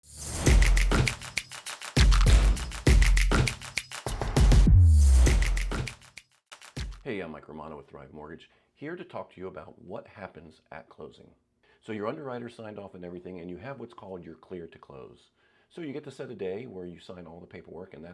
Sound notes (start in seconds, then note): 0.1 logo whooshes; 0.3 funky music